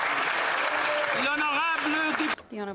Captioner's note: speaking Alternate Language; applause